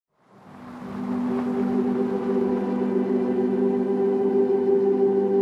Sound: car driving

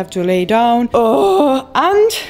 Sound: ughhh

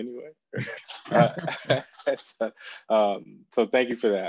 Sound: laughing

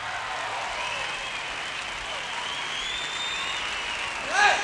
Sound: crowd cheering

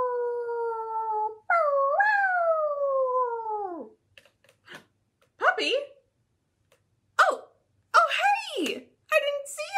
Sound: howling noise

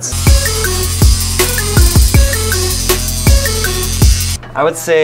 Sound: hip-hop music; electric whirring

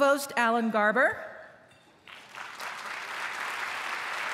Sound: applause

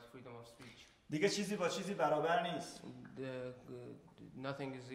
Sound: speaking in farsi

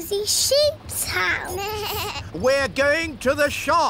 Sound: suzy bleats

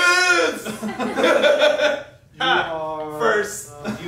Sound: laughing

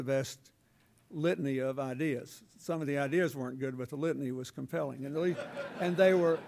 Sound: laughter

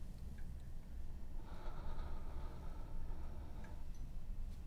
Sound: sighs

